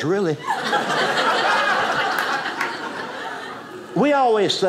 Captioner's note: audience laughing